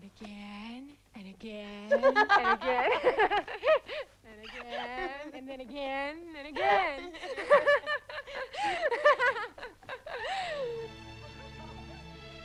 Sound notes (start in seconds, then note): 1.8 Tracima laughing; 7.0 both laughing